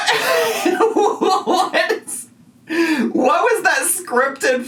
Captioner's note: laughs